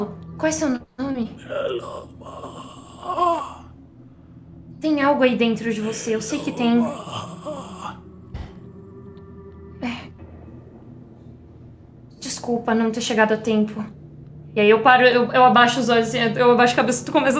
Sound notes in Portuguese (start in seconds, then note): 8.3 Suspiro